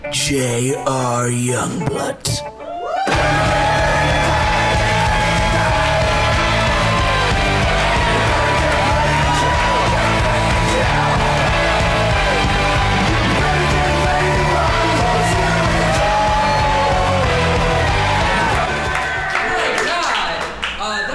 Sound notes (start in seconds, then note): 3.9 cheering